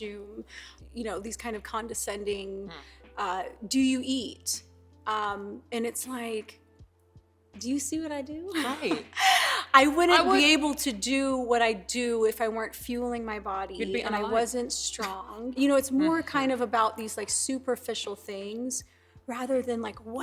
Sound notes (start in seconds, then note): 8.9 laughs genuinely